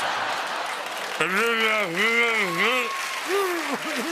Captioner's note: muffled shouting